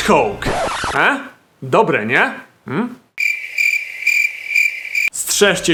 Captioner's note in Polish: świerszcze